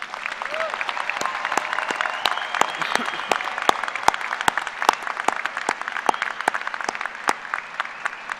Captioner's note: applause